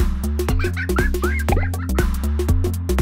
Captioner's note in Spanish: risas